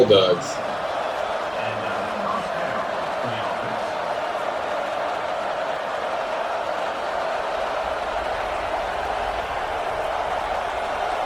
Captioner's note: crowd Noises